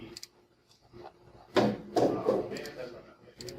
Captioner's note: box clatters onto floor